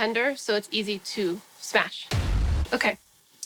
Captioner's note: thud